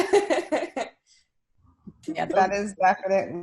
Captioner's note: laughing